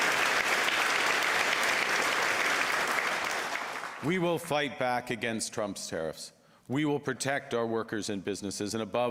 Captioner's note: applause